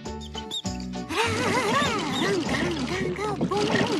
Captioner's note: humming